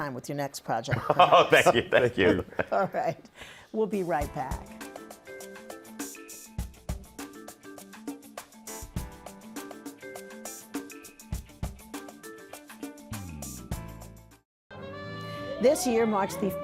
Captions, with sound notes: You will be able to come back anytime with your next project. - [laughing] Oh, thank you. - Thank you. All right, we'll be right back. [soft music]